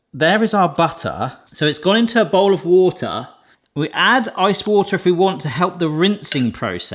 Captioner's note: none